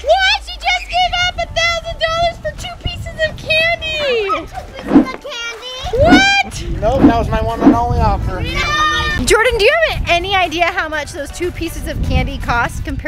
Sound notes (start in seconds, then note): 8.6 yell